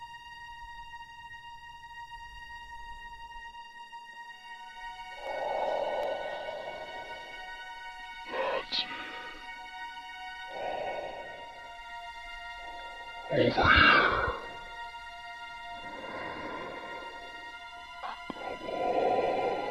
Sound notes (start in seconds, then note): 0.2 suspenseful music; 5.2 Chemock breathes heavily; 15.6 Chemock breathes heavily